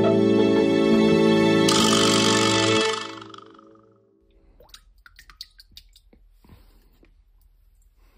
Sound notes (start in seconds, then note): 4.3 water drips